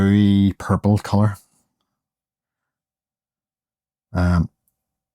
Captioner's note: silence